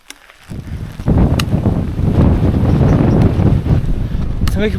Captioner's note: stronger rain and wind